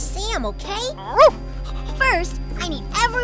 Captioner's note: dog barks